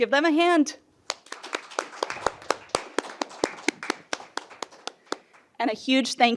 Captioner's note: applause